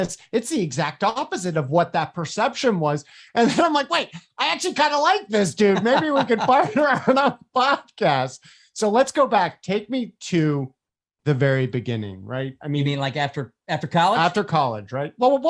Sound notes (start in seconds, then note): 5.3 laughs